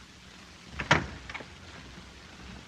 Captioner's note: door opens